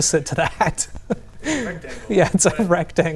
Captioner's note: laughs